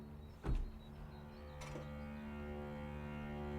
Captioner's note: truck door thuds; soft dramatic music continues